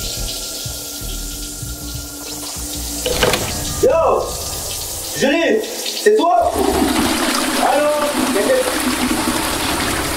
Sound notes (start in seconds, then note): 6.6 toilet Flush